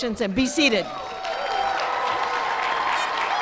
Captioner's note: applause